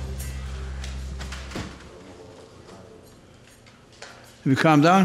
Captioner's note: guitar strumming; crowd murmuring